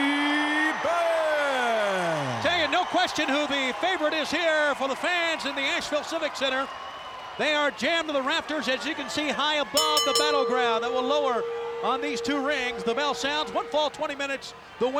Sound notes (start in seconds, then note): 1.0 crowd cheering; 9.8 bell ringing